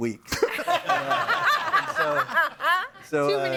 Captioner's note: audience laughing